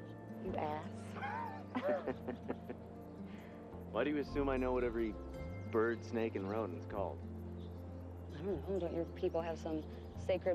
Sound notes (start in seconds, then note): 1.1 both laughing